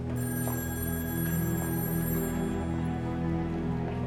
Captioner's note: phone ringing